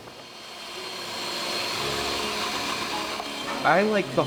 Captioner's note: machine whirring